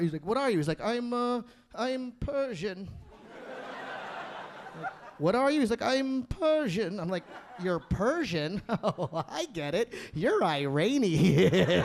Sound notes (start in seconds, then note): 3.1 audience laughing